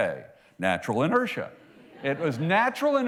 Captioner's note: laughter